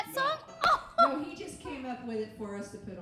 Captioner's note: laughing